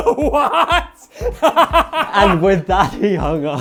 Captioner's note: laughing